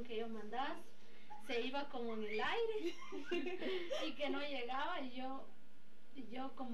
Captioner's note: laughs